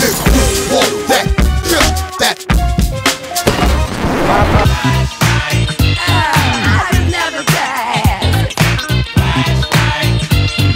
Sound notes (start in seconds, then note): 3.5 record scratching